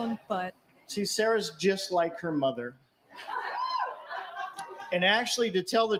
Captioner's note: cheering